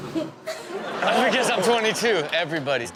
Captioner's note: audience laughs